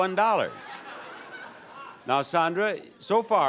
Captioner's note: audience laughs